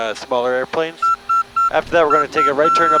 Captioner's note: controls beeping